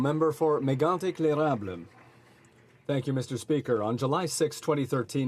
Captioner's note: applause